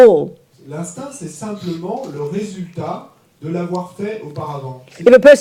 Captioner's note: French